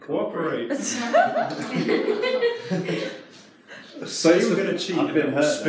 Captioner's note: participants laugh